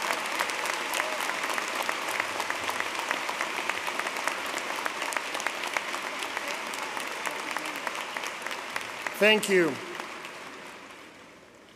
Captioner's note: applause